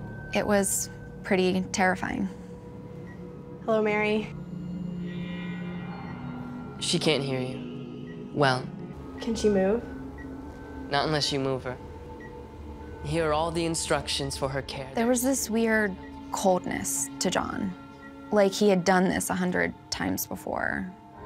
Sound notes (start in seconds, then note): 3.9 ominous music; 4.2 beeping